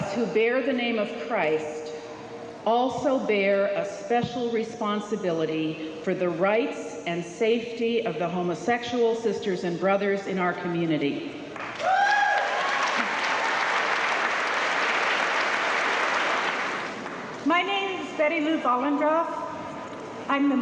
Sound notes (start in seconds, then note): 11.5 crowd clapping